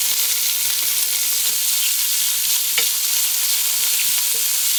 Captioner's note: grinding some pepper